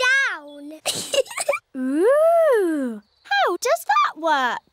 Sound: giggles

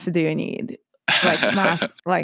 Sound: laughs

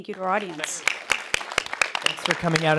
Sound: applause

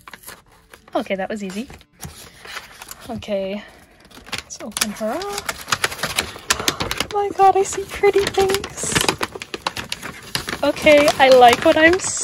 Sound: gasps

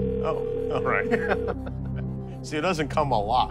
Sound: line ringing

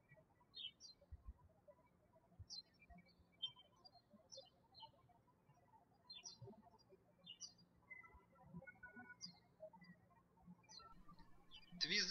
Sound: birds chirping

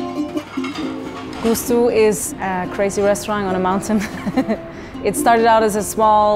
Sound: laughs

